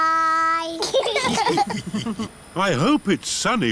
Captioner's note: laughter